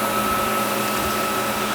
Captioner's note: whirring